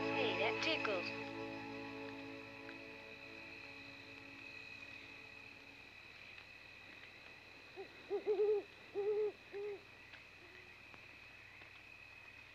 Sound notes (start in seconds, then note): 7.6 owl hooting